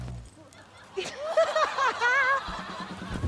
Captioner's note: laughs